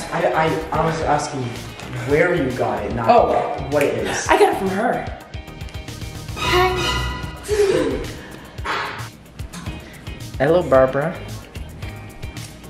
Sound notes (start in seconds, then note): 7.4 gasps